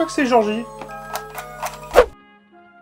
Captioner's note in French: craque une alumette